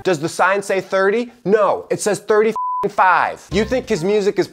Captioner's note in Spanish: beep